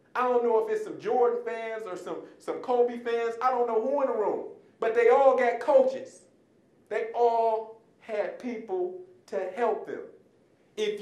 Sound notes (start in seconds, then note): none